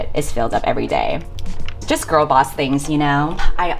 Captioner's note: none